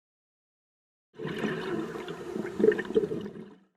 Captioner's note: underwater exhalation